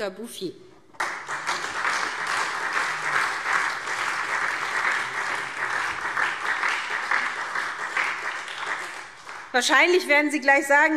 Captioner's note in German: Beifall SPD und Freie Demokraten